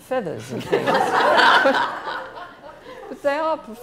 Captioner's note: laughing